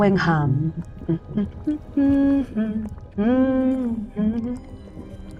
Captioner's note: hums